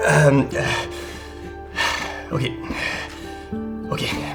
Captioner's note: sigh